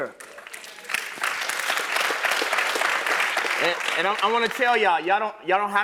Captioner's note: applause